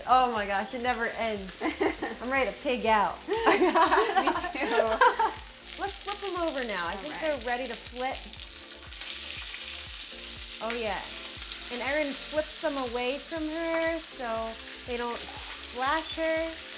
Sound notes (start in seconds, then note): 1.6 chuckling; 3.2 laughing; 8.9 pork chops sizzling